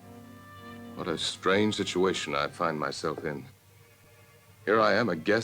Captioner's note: voiceover